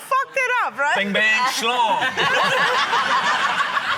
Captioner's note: laughter